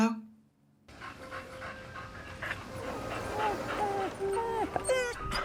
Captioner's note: panting; whining softly